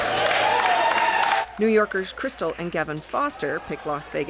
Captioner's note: cheers and applause